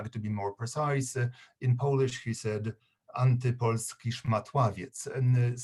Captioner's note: speaking polish